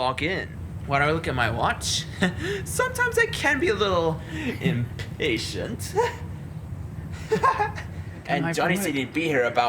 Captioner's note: laughs